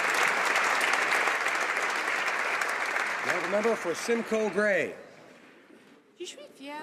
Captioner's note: some Applause